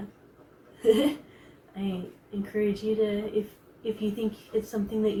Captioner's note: chuckles